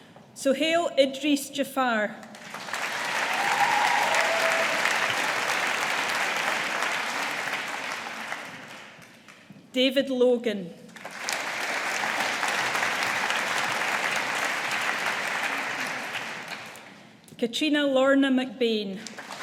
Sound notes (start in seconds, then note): 2.3 audience applauding; 10.9 audience applauding